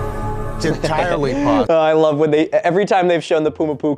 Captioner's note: laughs